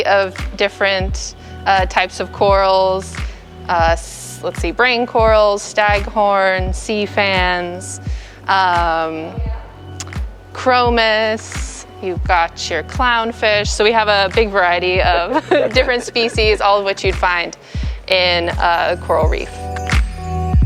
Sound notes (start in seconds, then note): 15.2 chuckles; 20.4 soft music